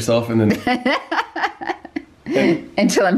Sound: laughing

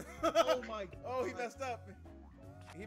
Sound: laugh

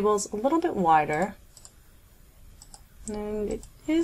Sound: mouse button clicking

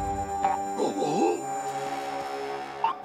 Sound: grunting

